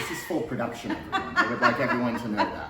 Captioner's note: laughs